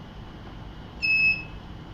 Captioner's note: beeps